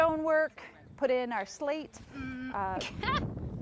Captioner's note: laughing